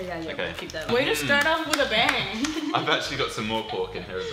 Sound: laughing

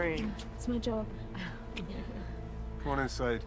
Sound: chuckles

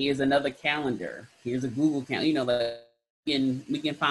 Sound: sound distorts

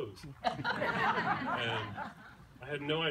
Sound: laughter

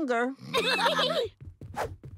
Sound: giggling

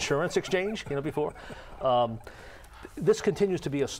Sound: chuckling

